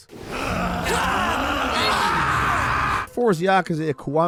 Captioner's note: yelling